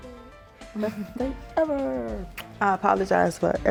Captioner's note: chuckles